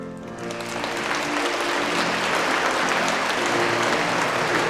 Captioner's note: audience applauding